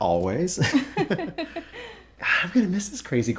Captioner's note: laughter